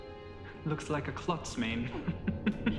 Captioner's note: laughs